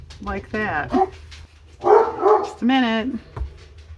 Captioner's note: dog barks